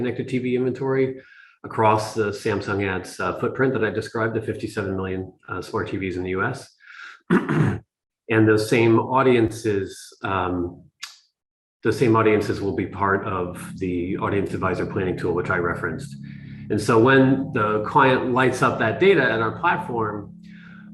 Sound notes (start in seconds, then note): 7.2 cough